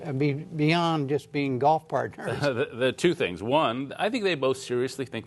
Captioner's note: laughter